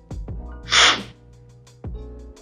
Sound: slurping sound

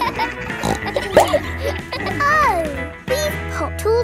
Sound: bleats; neighs; snorts

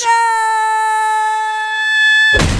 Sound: high Pitch

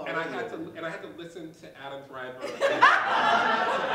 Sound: laughter

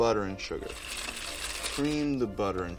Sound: whirring

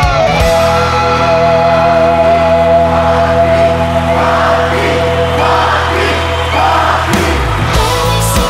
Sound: crowd chanting " !"

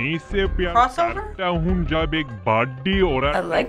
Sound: voice-over speaking gibberish

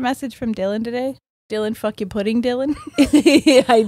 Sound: chuckles; laughs

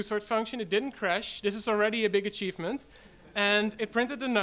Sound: audience laughs

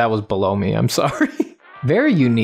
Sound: chuckles

